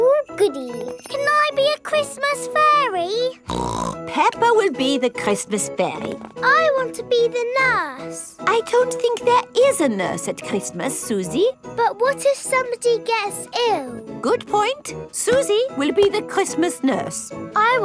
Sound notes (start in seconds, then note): 3.4 snorts